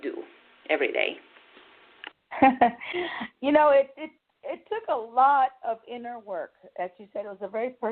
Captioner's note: chuckles